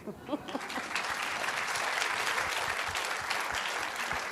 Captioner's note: applause